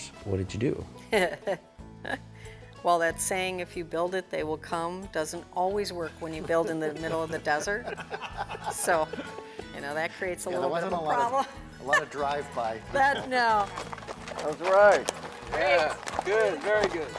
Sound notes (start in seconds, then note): 1.8 laugh